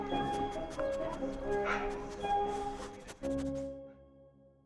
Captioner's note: dog sniffing